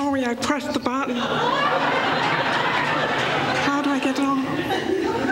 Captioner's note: laughter